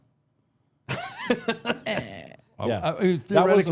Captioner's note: Jerry laughing